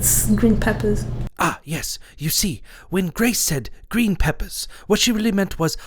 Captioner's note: British voiceover